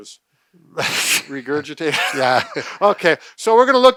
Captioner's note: chuckles